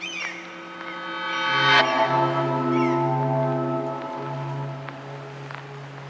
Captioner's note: sound of electric pulse